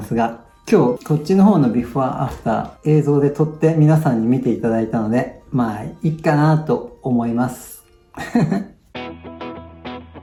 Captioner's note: laughs